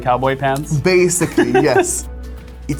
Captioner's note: laughs